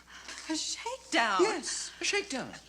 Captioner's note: laughs